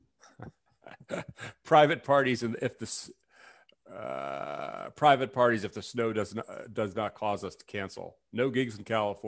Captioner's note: laughs